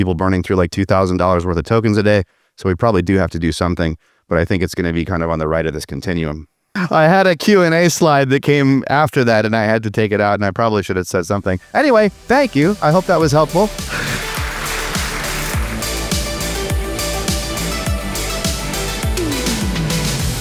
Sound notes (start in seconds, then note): 13.5 audience applauding; 15.8 outro music playing